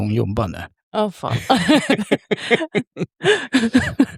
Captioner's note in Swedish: skratt